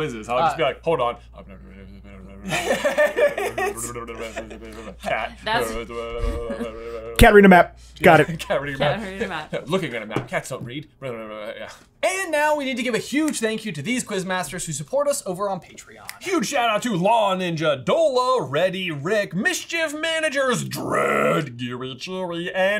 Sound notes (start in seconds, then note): 2.4 laughter; 3.3 continues mumbling